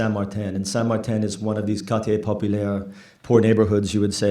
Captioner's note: french